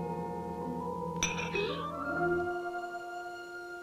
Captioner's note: clanking